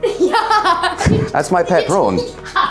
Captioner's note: laughs